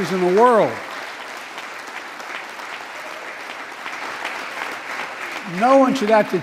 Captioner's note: applause